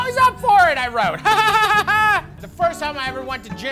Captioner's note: laughs